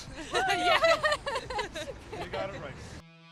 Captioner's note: cheering